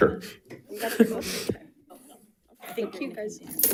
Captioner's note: faintly speaking